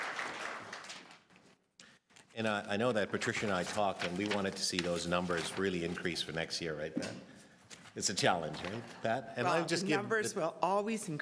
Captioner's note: applause